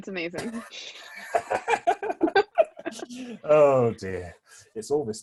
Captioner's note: laughs